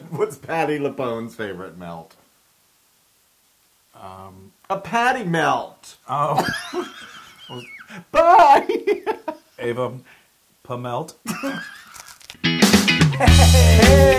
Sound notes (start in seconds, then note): 0.1 laugh; 6.3 laugh; 13.1 laugh